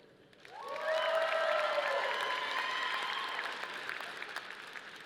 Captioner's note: audience applauding